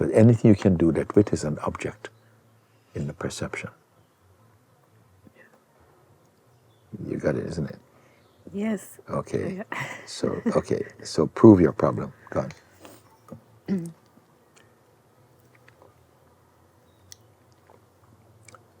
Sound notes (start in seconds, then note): 14.4 silence